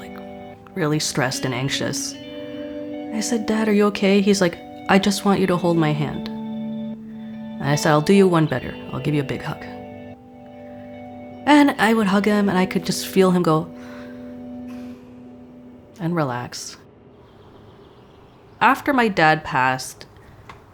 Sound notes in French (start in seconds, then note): 14.6 soupir